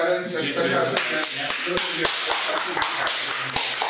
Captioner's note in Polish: oklaski